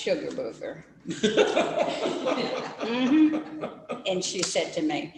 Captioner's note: laughter